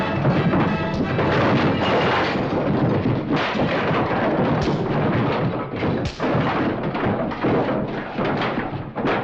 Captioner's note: sound of fight